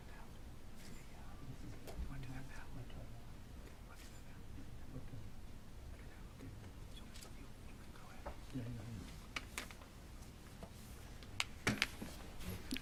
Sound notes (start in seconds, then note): none